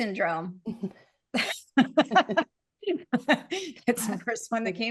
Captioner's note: all laughing